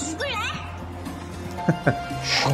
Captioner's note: laughing